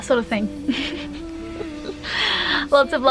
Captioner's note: giggles